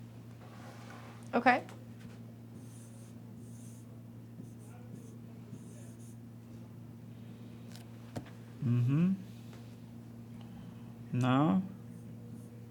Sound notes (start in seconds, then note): 2.9 stylus scratching